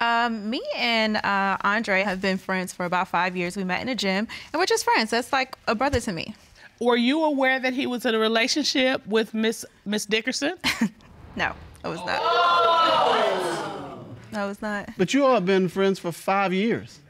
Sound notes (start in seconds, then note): 10.4 chuckles; 11.8 audience exclaiming